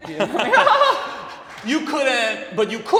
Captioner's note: laughs